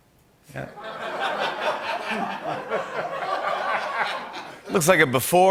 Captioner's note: laughter